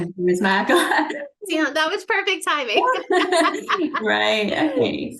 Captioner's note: chuckles; laughs